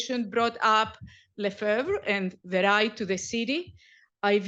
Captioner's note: french